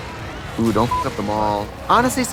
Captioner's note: beeping